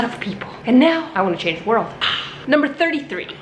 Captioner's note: gasps